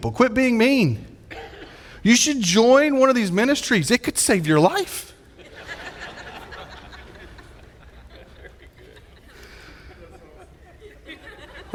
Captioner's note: audience laughing